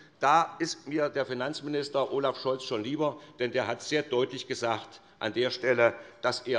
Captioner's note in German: none